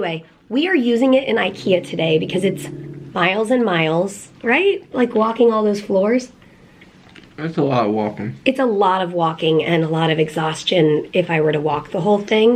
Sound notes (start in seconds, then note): none